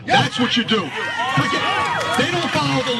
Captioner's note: applause